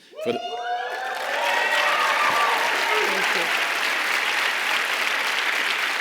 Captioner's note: audience cheers and claps